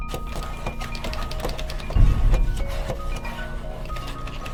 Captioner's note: rattling